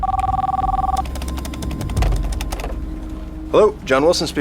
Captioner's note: phone ringing